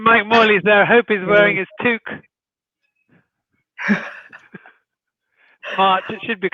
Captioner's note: chuckling